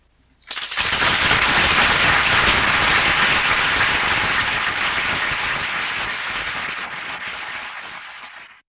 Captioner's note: applause